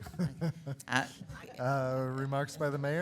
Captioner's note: laughing